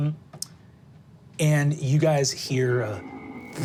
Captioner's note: buzzes